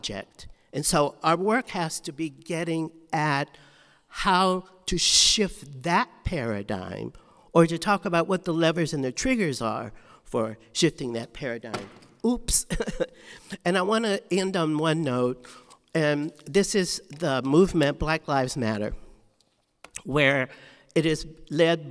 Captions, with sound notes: And so our work has to be getting at how to shift that paradigm or to talk about what the levers and the triggers are for shifting that paradigm. (item dropping) Oops. (laughs) And I wanna end on one note. This is the movement, Black Lives Matter, where it is led by men and women,